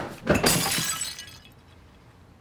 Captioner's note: shatters